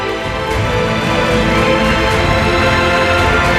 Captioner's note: the audience applauds